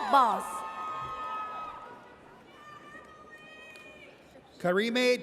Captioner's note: audience cheers